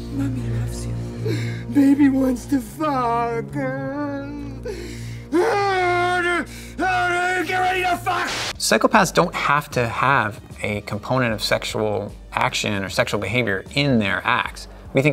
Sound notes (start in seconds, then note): 2.0 sobs; 5.3 yells